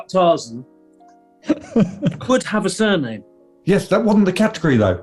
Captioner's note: chuckling